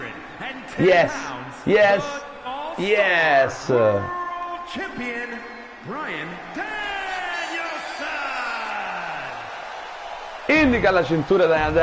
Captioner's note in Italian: Applauso